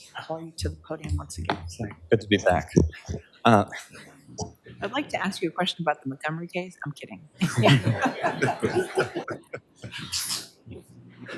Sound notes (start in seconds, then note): 7.4 group laughs